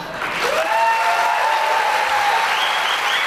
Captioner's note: cheering and applause